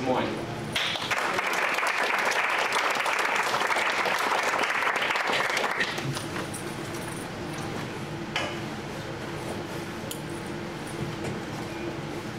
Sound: clapping

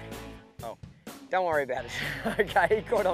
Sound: chuckling

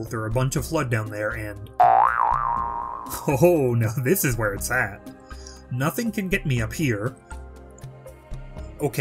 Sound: boing

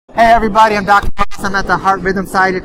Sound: mic distorts

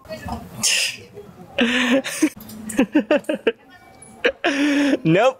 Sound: laugh

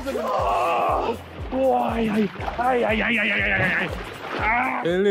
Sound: Ethan yelling

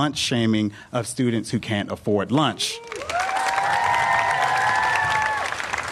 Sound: applause

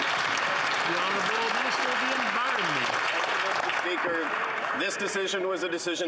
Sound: some Applause

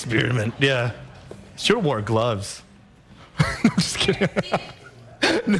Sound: laughter

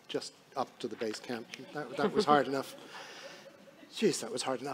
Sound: audience laughing

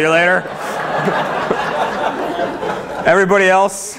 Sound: laughter

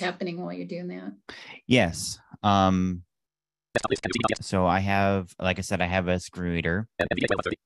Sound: Sound of NVDA at fast rate of pitch; Sound of NVDA

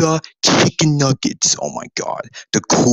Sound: groaned

